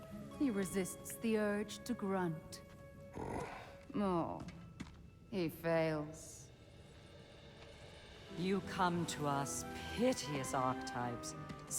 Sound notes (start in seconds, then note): 3.1 grunt